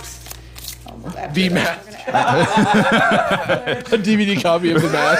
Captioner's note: both laughing